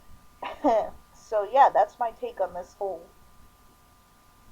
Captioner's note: awkward laughter